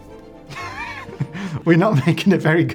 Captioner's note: laughs